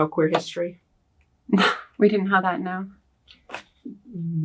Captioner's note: laughs